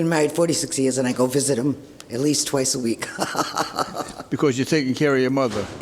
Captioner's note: laughs